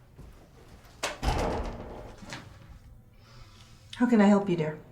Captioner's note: door latching